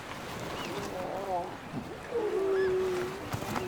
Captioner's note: seals groaning